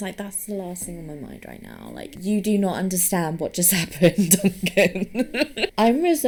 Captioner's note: laughs